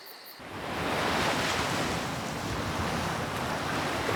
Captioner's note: waves crashing